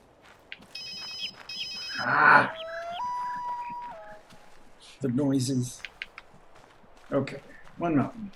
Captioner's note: ringing phone, coyote howling